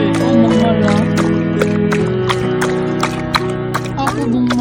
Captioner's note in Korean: 촵촵촵촵촵촵